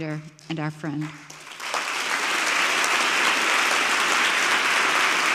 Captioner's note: audience clapping